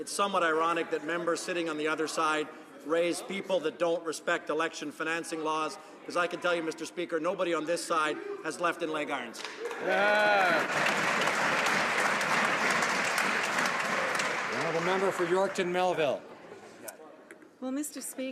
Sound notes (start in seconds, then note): 14.0 some Applause